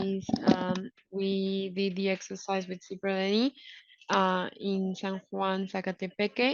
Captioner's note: speaking in foreign language